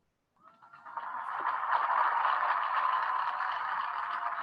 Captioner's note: crowd applauding